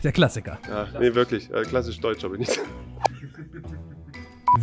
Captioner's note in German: lacht